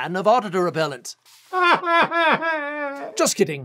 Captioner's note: crying